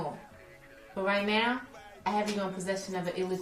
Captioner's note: voiceover